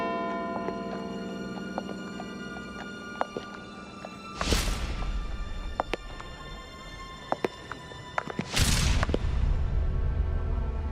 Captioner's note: bell ringing